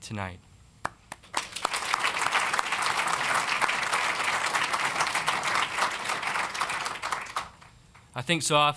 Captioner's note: applause